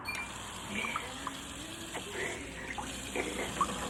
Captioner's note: water swishes